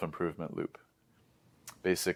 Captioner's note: lips smack